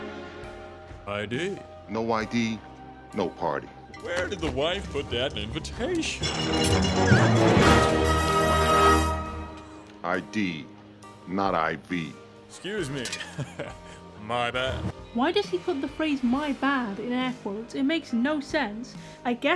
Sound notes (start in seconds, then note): 7.3 fanfare; 13.1 chuckle